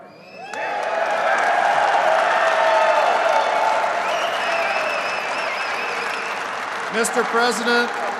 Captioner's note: applause